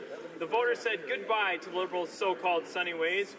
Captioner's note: none